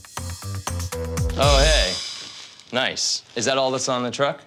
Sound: normal voice

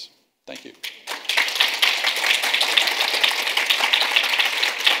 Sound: audience applause

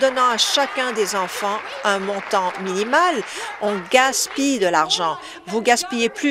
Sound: applause

